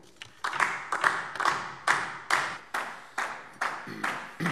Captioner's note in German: Beifall DIE LINKE